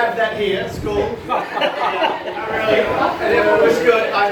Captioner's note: laughs